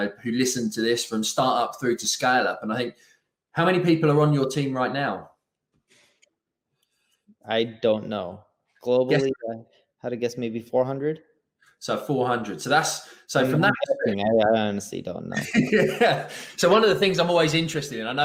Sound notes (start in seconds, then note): 15.3 laughing